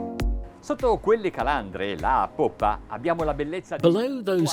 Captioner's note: speaking in foreign language